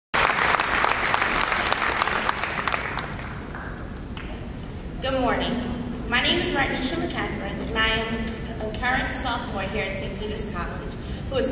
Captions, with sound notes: (applause) Good morning. My name is Rodneisha McCathern and I am a current sophomore here at Saint Peter’s College